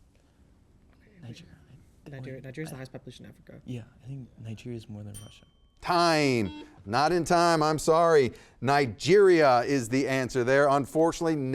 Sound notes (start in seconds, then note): 5.1 bell ringing; 6.1 buzzer beeping